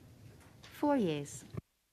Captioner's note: speaking French